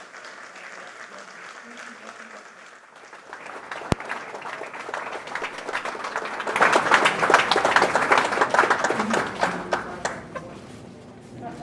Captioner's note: applause